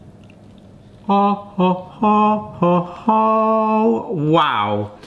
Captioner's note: vocalises